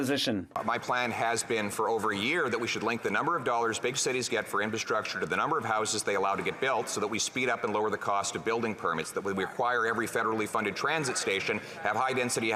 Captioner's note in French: voix de l'interprète